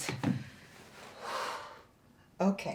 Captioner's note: exhales